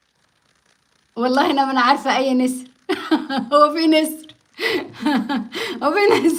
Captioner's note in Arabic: ضحك